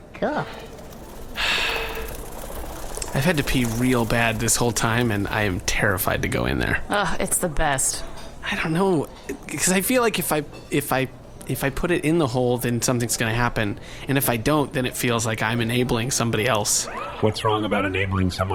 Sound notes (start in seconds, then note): 1.2 sighs